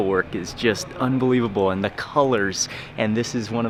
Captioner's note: none